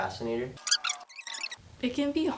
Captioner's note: rewind sound effect